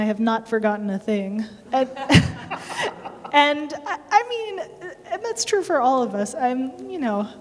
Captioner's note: laughter